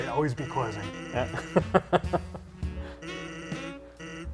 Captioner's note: laughs